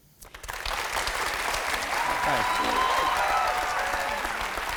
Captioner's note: cheers and applause